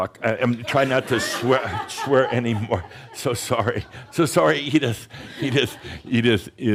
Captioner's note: laughter; chuckles